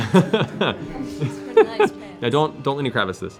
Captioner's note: laughter